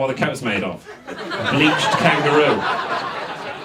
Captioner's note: audience laughs